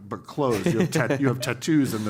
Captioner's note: laugh